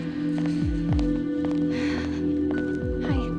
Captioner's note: sighs